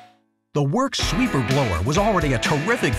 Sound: voiceover

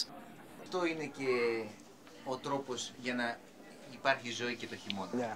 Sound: speaking Greek

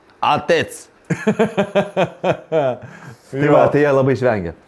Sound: chuckles

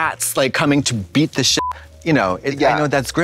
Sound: beep

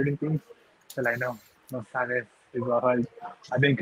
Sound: speaking in foreign language

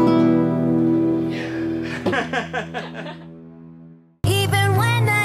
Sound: guitar playing; laughing

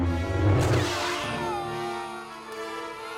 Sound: screams

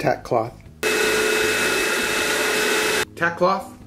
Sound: vacuum

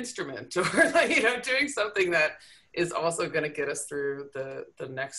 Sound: laugher

